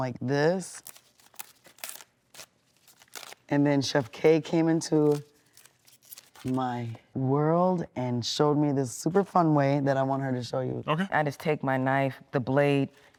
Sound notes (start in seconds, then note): 2.2 leaf ripping